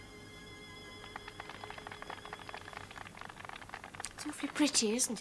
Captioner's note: applause on the radio